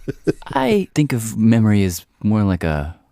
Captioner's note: laughs